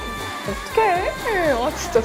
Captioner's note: aww